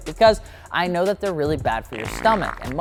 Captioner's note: farts